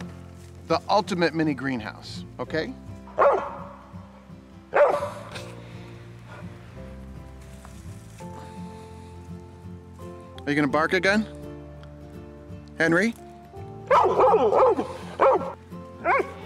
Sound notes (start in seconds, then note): 3.1 dog barks; 13.8 dog barks